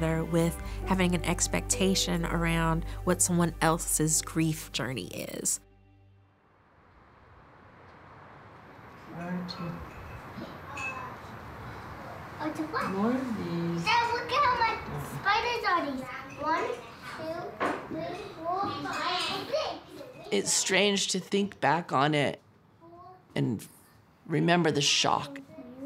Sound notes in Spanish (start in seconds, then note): 9.8 Conversación indistinta; 12.5 Balbuceo de niño